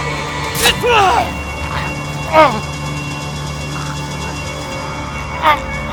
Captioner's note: yelling; grunting and choking